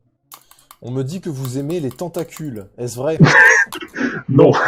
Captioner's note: laugh